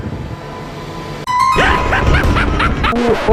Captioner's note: Chucky laugh